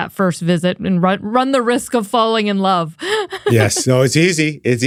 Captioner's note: laughs